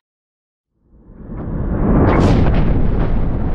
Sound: rumble

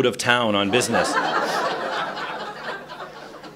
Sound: laughter

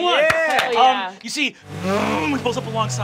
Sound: revving

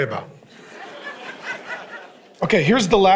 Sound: congregation laughing

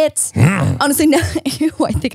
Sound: growls

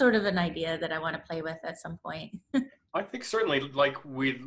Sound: laughs

